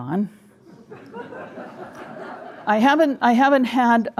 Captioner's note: audience laughing